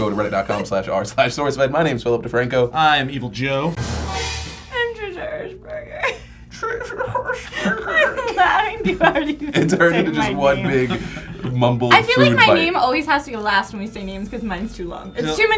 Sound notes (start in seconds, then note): 6.2 mocking trish's soft voice